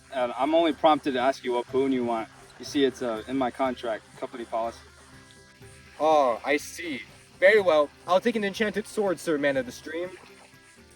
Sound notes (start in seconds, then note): none